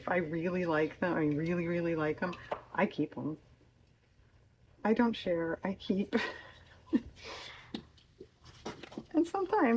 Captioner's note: laughs